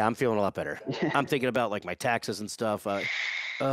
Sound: chuckles

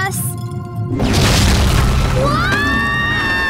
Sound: crashes

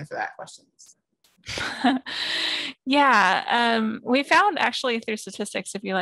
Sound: laugh

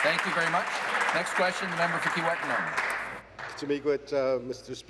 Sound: applause

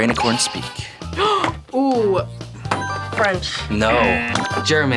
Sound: gasps; buzzer buzzes; bell dings

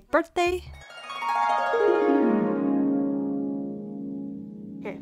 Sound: magical girl dreaming sound

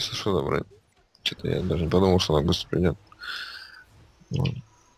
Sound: sigh

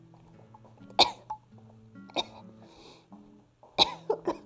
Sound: coughing

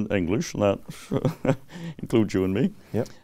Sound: laughs

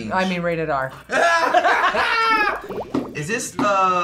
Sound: both laughing

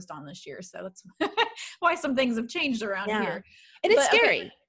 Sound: laughing

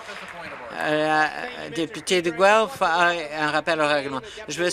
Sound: applause

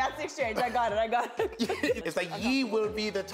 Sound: laughs

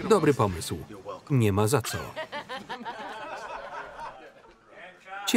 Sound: laughing

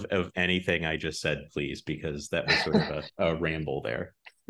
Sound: laughs

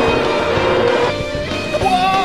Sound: traveling noises,with some music

